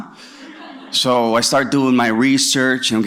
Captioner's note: laughter